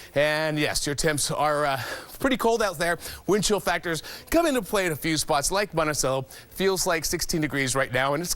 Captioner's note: heavy breathing